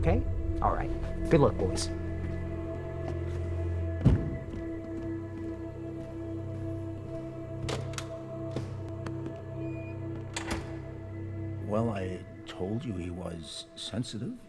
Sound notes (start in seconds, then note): 7.3 theater door closing